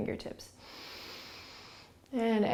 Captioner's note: inhaling